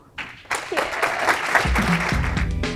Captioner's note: applause